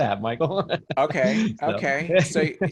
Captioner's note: laughs